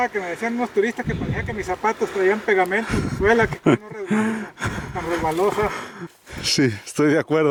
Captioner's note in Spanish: risas